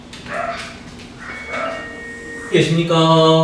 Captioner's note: ding-dong